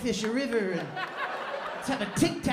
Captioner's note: laughter